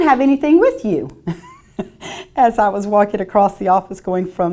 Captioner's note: laughs